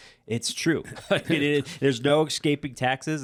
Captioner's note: chuckle